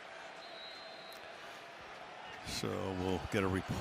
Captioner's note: whistle